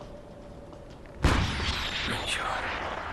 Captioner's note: rocket firing